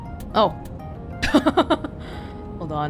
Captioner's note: chuckles